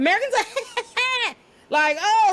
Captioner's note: laughs